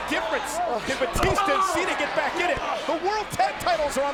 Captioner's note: fighters grunting